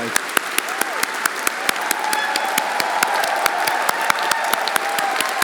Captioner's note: everyone applauding and cheering